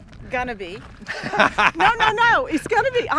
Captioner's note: laughs